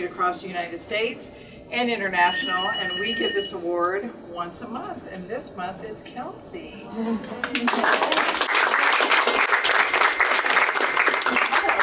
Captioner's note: applause